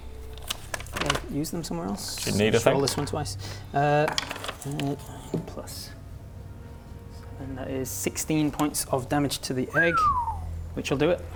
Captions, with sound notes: I've used them somewhere else - You need a thing? - I'll just roll this one twice Alright, 9+... That is 16 points of damage to the egg. *whistles* which will do it.